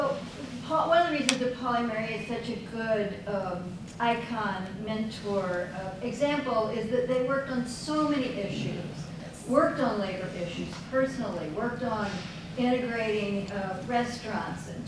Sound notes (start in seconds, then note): none